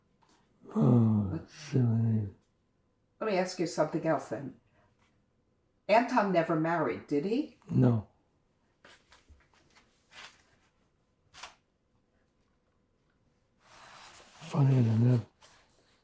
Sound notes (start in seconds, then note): 8.3 pauses 6 seconds